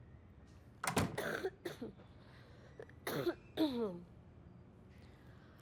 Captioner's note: coughs